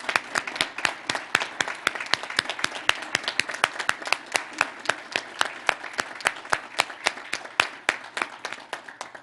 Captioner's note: applause